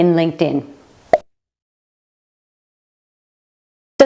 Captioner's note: pop